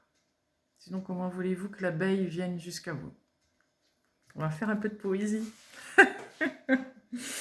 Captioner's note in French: rires